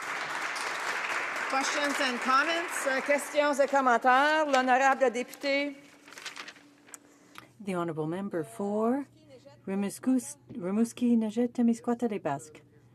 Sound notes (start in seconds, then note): 4.6 some Applause; 7.9 speaking in French